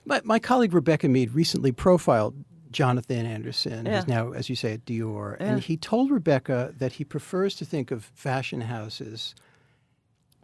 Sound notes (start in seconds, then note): none